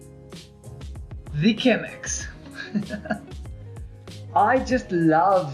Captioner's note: chuckles